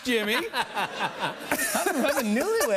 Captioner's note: laughter